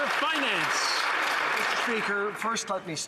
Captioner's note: some Applause